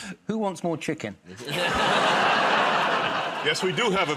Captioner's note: audience groans; laughs; chuckles